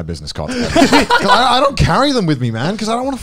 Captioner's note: laughs